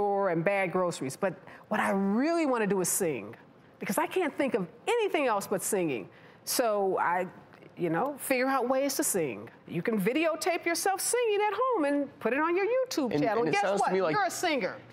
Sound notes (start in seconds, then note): none